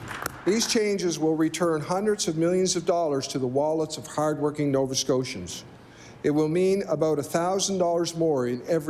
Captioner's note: applause